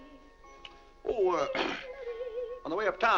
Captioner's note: clears throat